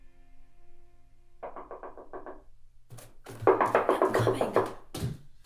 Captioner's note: knocking